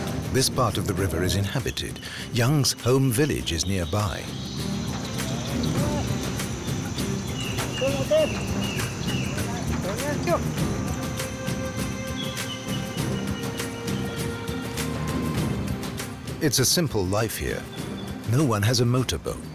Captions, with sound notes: This part of the river is inhabited. Yung's own village is nearby. (speaking in a foreign language) (birds chirping) It's a simple life here, no one has a motor boat.